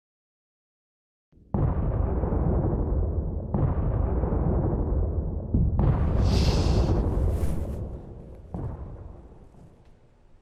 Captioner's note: bombs in the distance